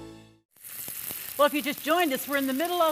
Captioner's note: oil cooking